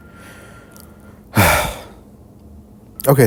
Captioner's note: sigh